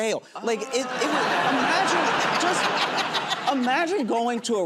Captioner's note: laughter